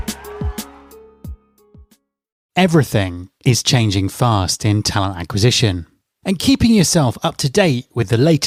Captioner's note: applause